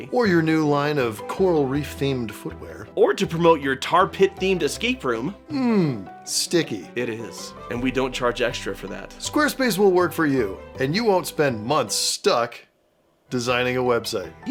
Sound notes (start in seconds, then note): none